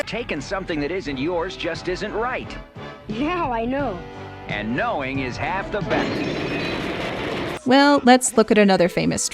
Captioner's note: explosion